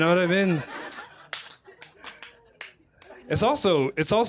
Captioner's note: laughter